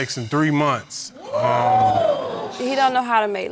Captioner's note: audience exclaims